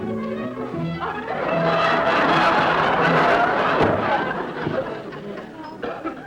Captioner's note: audience laughter